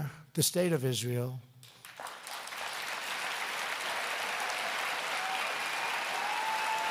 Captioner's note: applause